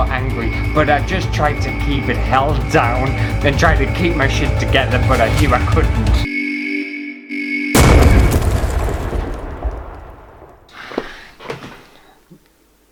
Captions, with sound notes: angry, but I just tried to keep it held down and tried to keep my shit together, but I knew I couldn't!! *ALARM SIREN!* *BANG!!!*